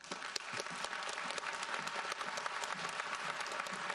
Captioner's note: audience applauds